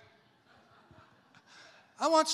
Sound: congregation laughs

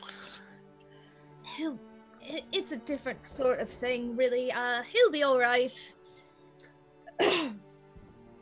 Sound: clears throat again

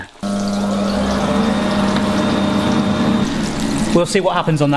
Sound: air fryer frying

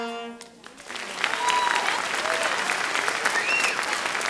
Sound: audience clapping

